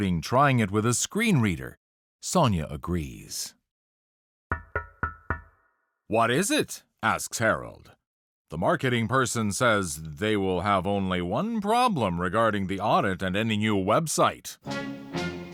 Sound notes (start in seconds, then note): 2.1 knocking on glass; 14.6 dramatic music